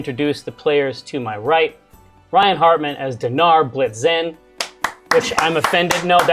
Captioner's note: claps heartily